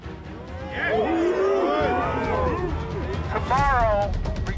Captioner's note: crowd wooting